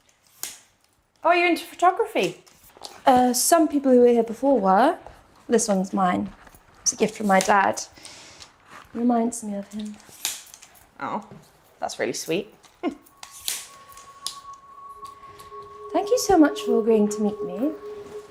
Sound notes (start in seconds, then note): 13.0 laughs